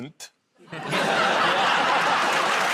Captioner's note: laughter